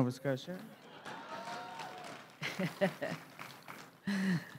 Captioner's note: crowd cheering and applauding; chuckles